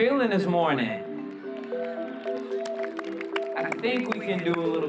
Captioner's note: cheering